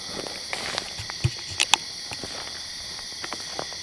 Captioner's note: insects chirp